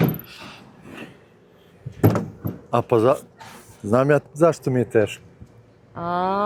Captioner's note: snorting